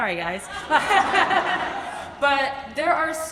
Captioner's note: audience laughs; laughs